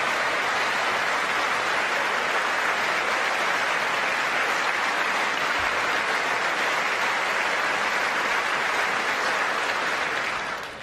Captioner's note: applause